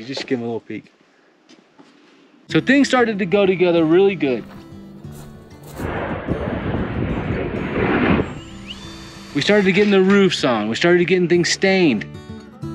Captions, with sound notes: Just give 'em a little peek. So things started to go together really good. (moderate guitar music) (jet engine roaring) (wind whooshing) (drill hums) We started to getting the roofs on, we started to getting things stained.